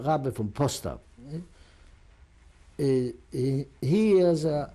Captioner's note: non-english